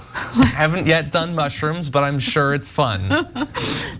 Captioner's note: laugh